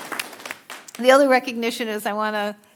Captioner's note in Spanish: aplausos